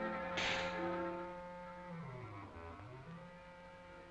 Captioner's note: snake hisses